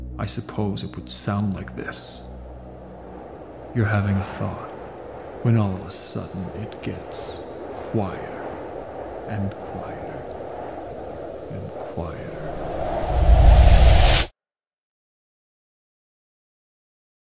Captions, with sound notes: I suppose it would sound like this “you're having a thought, when all of the sudden it gets quieter and quieter, and quieter. [voice fades out] [Silence]